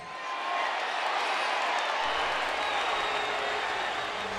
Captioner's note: audience jeers